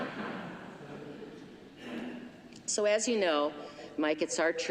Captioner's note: laughter